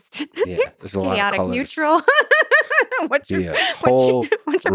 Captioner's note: laughs